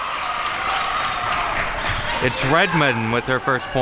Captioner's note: crowd cheering